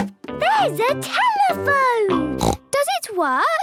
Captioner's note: snorts